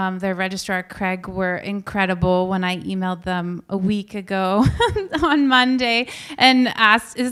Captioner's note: laughs